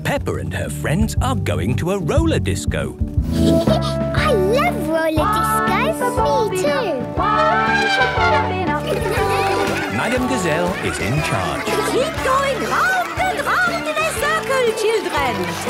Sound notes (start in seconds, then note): 3.3 Peppa laughing; 7.2 trumpeting; 15.5 laughter